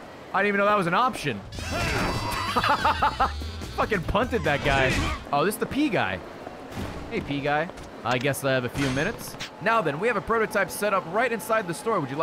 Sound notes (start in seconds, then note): 1.5 laughs